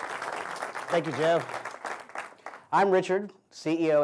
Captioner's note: applause